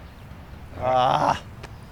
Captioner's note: groans